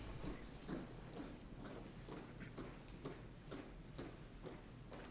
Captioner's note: rhythmic footsteps resound